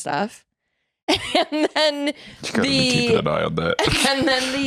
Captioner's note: laughs